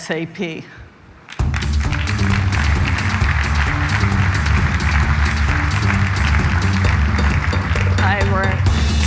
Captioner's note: applause